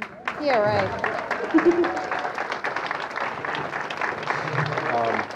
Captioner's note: audience clapping